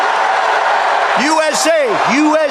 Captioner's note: audience Cheers